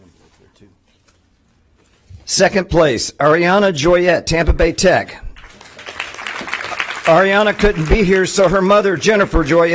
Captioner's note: applause